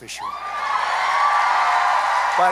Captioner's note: applause